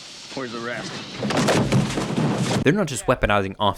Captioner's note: furniture thudding